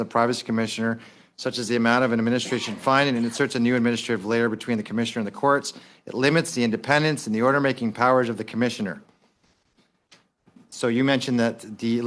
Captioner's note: speaking Quickly